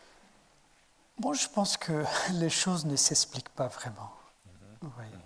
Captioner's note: speaking in French